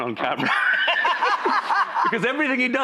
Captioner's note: laughter